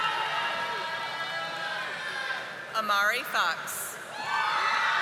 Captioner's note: audience applauding